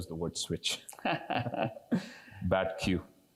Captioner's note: laugh